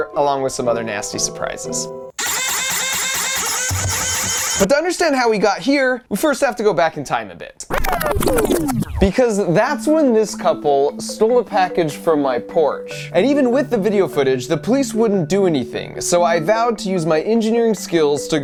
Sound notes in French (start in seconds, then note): 2.2 la pompe grince; 7.6 inversion audio